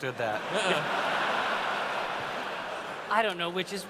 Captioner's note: laughter